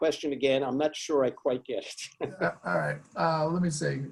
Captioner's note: laughing